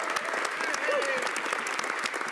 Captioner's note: speaking French